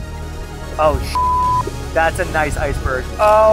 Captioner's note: gasps; beep